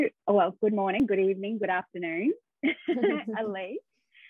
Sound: chuckles

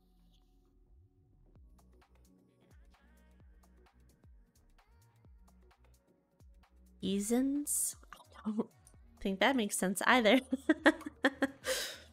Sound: giggles

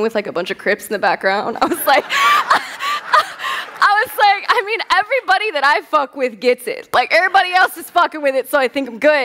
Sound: laughter

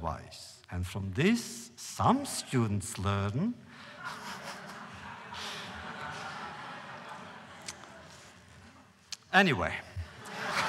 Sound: laughter

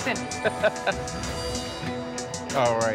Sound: laughs

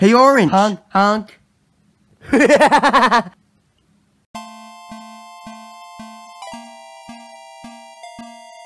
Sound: laughs

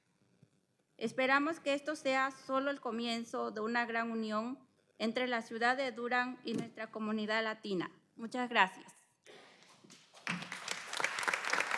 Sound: speaking spanish

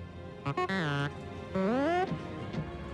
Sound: beeps

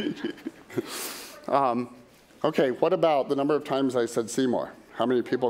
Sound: laughter

